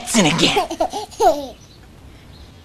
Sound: chuckles

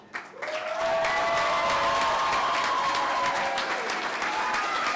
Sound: clapping and cheering

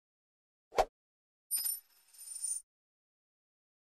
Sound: coins jangling

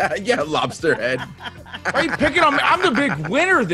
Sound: laugh

